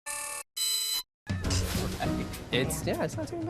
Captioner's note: glitchy sounds